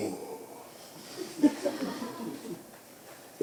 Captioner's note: laughter